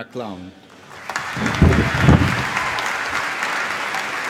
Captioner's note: applause